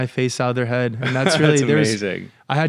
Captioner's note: laughs